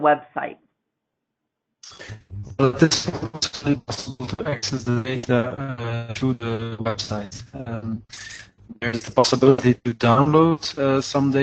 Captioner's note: distortion interferes with audio